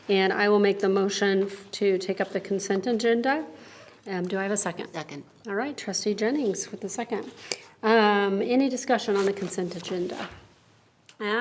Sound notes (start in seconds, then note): none